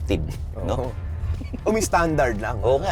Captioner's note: laughs